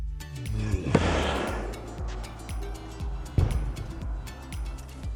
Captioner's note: ball bangs